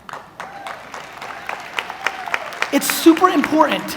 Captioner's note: audience applauds